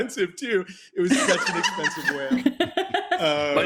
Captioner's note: laughter